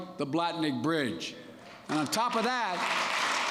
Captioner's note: applause